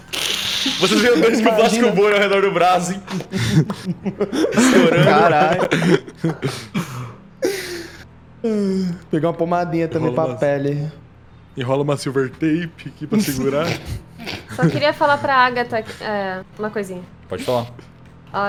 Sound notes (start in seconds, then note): 3.1 pop pop